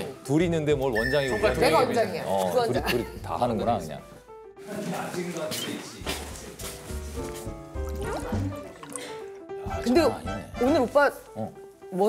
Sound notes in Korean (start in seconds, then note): 8.0 콸콸콸